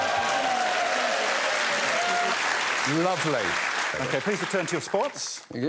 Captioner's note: cheers and applause